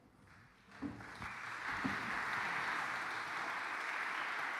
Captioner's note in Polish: <i>oklaski</i>